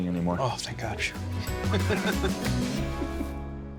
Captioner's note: laughs